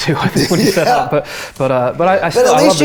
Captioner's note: laughs